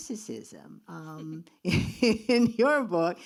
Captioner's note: laughs